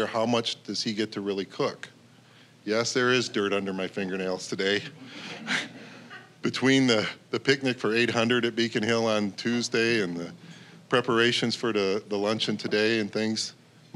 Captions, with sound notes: how much does he get to really cook. Yes, there is dirt under my fingernails today. (audience laughing) Between the picnic for 800 at Beacon Hill on Tuesday and the preparations for the luncheon today and things,